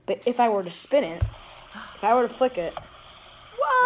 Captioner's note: gasps